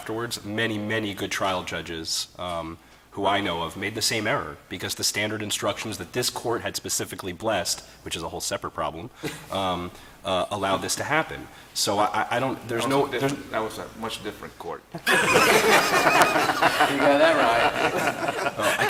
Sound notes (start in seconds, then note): 9.8 laughter